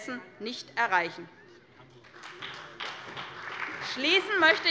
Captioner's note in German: Beifall bei der SPD